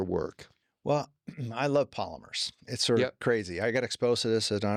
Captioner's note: clear throat